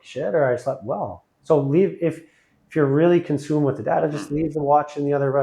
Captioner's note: laughing